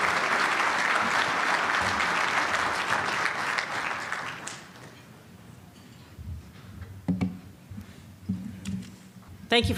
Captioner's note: applause